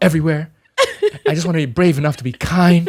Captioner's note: laughs